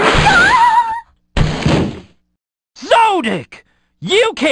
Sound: Sexy Doll screams

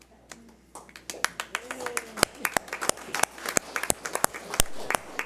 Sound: crowd applauds

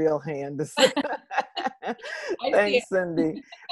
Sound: laughing

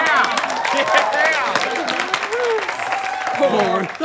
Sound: clapping

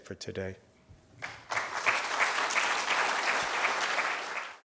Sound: applause

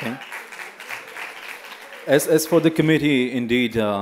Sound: small applause

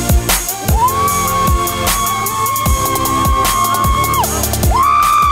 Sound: funky music continues; screaming

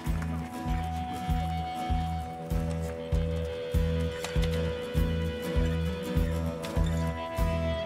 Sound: applause

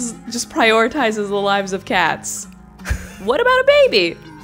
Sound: laughs

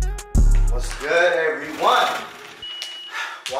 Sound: alarm beeping

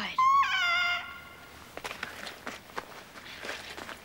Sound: squawks

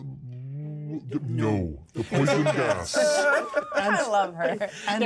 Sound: laughs

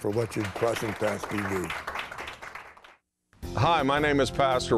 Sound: applauding

